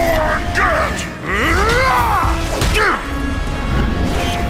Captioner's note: roars; grunts